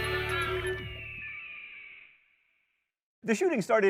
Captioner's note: eagle shrieking